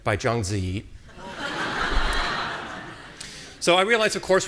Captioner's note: audience laughing